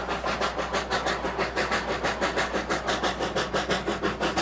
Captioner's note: train huffing